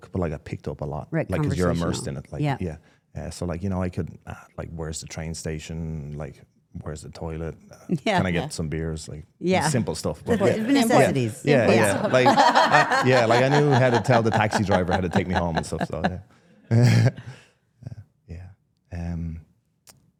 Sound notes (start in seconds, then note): 8.1 laughs; 11.6 people laughing; 19.1 laughs